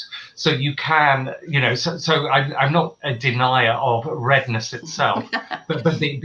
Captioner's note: laughter